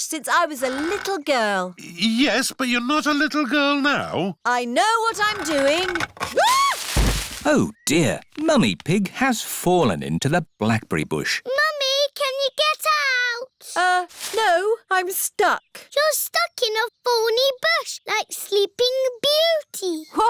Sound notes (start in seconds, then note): 5.2 thuds; 6.4 screams